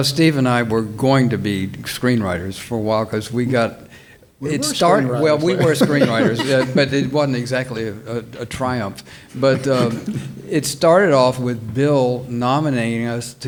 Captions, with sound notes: - Steve and I were going to be screenwriters for a while, - We were screenwriters. - Well, we were screenwriters, (panelists laughing) but it wasn't exactly a triumph. But it started off with Bill nominating us